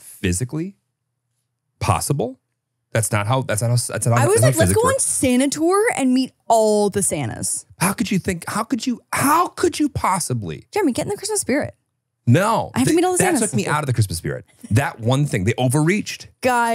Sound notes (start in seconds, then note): 12.4 laughs